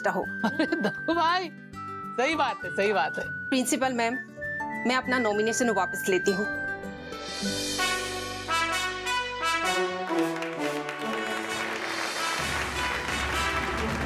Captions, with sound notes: Oh, Mr Dakku. That's true. Principal ma'am, I take my nomination back. [triumphant music playing] [clapping]